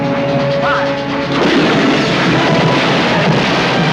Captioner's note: cannon booming